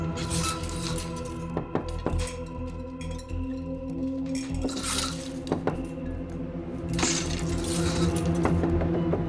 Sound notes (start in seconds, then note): 1.2 knocking on wall